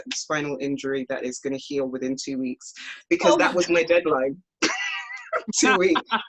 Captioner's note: laughs